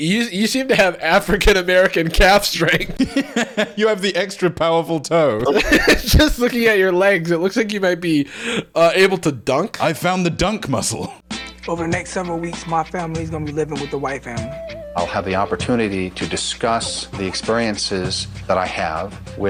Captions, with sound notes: you seem to have African-American calf strength. (laughing) - You have the extra powerful toe. - Just looking at your legs, it looks like you might be able to dunk. - I found the dunk muscle. - Over the next several weeks, my family's gonna be living with a white family. - I'll have the opportunity to discuss the experiences that I have